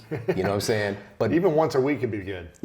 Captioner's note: laughs